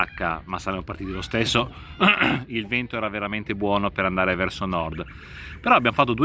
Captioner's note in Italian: schiarire la voce